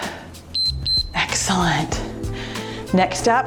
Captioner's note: timer beeps